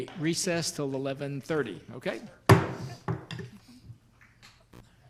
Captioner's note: banging